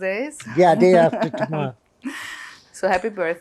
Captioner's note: laughing